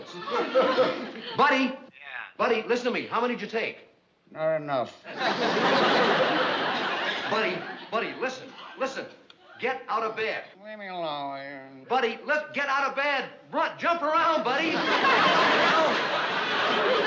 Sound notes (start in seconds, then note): 1.7 on phone